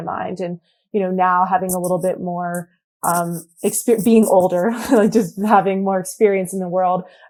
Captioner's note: laughs